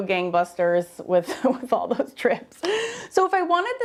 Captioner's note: laughs